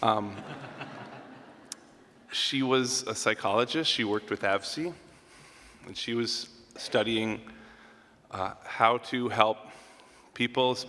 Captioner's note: laughter